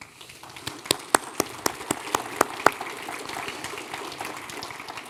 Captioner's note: audience applauding